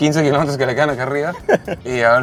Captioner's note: laughter